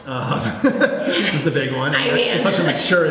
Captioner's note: laughs